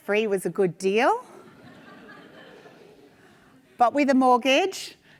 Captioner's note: attendees laugh